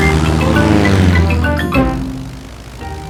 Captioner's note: plane engine revving